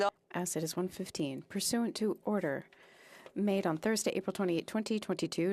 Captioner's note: speaking French